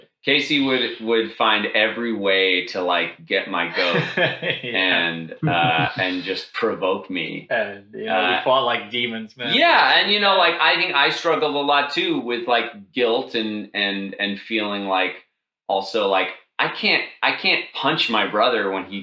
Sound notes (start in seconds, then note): 4.1 laughs